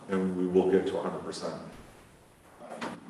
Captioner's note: thud